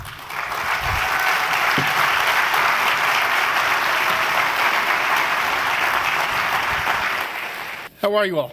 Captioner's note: applause and cheering